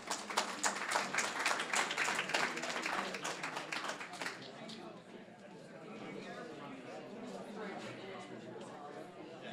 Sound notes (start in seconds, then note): 0.0 applause; 3.2 general chatter